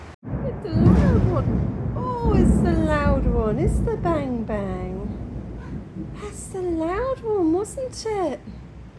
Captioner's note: thunder